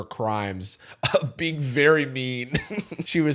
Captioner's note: chuckles